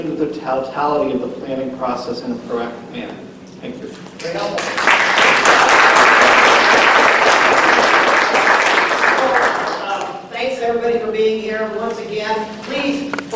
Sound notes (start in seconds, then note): 4.2 applause